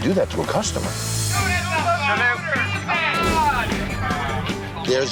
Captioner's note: crowd shouting